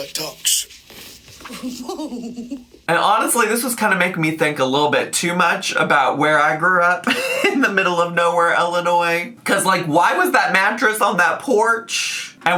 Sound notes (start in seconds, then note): 1.4 giggling